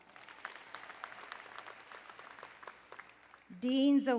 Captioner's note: applause